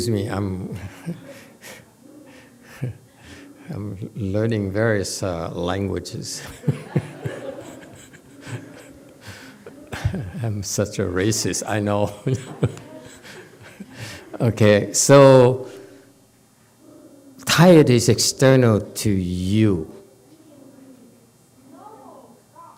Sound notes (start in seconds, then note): 6.4 laughs, audience laughs; 11.8 laughs